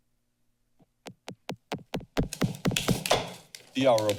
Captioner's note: silence; gavel banging continuously